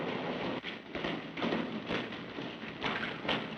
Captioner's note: footsteps